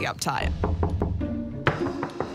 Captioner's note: knocking; more knocking